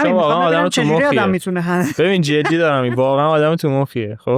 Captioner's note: laughs